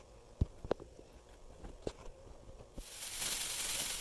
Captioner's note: sound of pom pom shaking